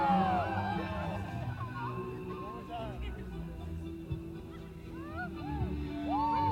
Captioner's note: audience cheers